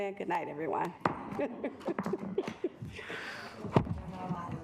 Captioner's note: gavel thudding; chuckles